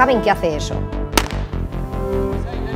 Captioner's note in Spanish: Disparo